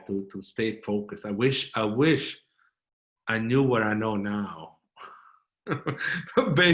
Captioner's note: chuckling